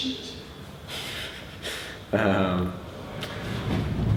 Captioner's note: chuckles